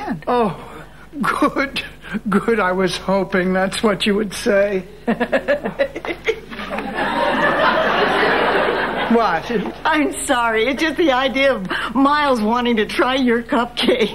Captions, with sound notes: Oh, good, good, I was hoping that's what you would say. (laughing) (audience laughing) What? I'm sorry, it's just the idea of Miles wanting to try your cupcakes.